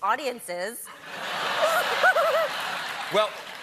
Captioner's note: laughter